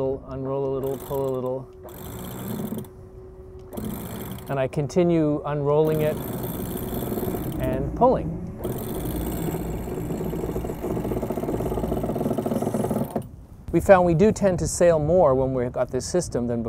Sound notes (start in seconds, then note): 3.6 winch clicking